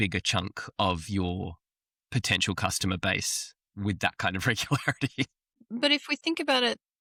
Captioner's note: laughs